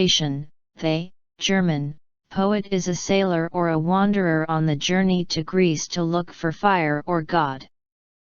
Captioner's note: German